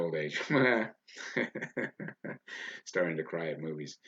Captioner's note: laughs loudly